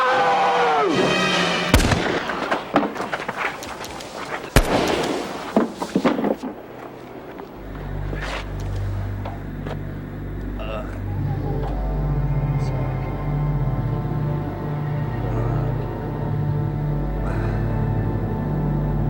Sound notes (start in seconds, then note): 0.0 yells; 0.9 gun shots; 10.7 gasping; 10.7 sad music